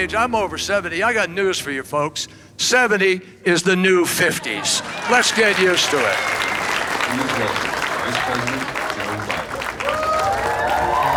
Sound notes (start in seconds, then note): 6.4 crowd applauds; 10.9 crowd cheers